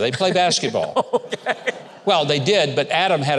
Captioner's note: laughing